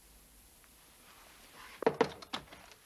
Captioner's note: knock at door